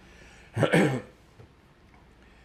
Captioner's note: clears throat